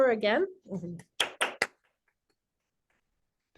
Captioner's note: applause